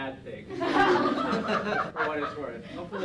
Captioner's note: laughter